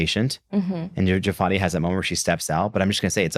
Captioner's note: none